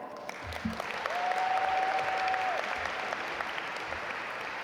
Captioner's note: audience applaud